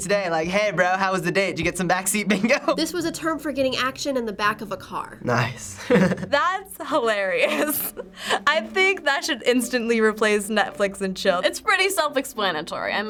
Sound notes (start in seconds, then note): 5.7 laughing; 5.7 chuckles